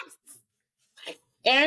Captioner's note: laughing